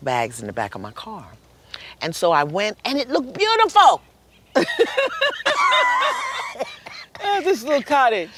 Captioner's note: laughter